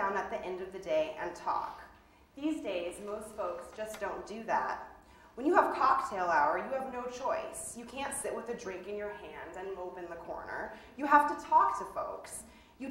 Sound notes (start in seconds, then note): none